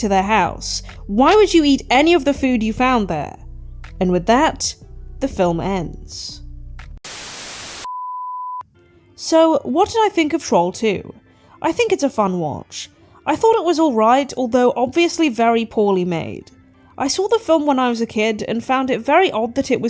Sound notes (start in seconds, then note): 7.0 static